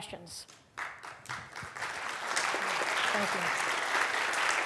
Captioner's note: audience clapping